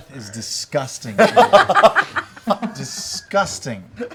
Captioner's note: laughter